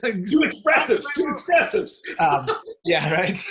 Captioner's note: laughing